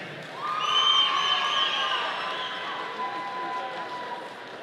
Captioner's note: audience cheering